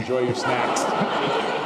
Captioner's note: laughter